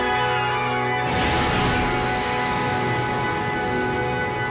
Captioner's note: air hissing